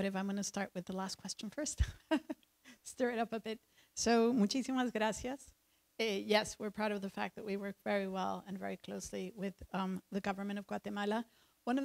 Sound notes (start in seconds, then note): 1.8 chuckles; 3.8 speaks in foreign language